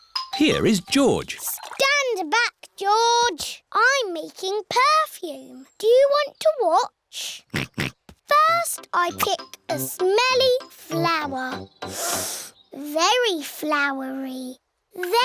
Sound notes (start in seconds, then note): 7.8 snorts; 11.9 sniffs